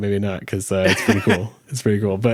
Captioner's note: laughs